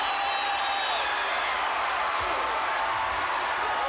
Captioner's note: crowd cheering